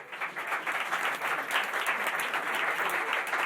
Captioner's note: applause